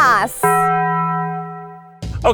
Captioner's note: bell rings